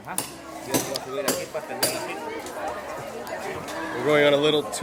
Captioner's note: crowd chatting in foreign language